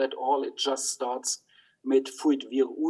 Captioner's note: speaks in foreign language